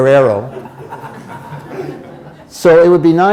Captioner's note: laughter